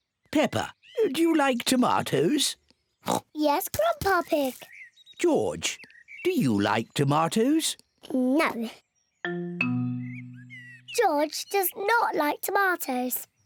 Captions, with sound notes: Peppa, do you like tomatoes? (OINKS) Yes, Grandpa Pig. -George, do you like tomatoes? -No. George does not like tomatoes.